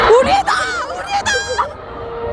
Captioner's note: tears